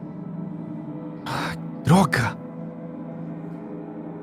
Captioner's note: sighs